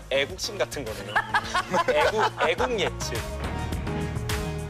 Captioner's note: bursts laughing